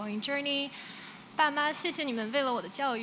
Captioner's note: non-english